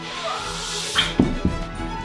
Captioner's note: soft thuds; whaaaa